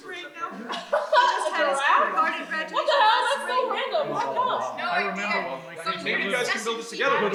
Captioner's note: callers and dispatchers chattering simultaneously